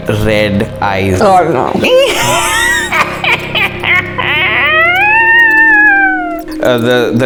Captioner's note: sinister Laugh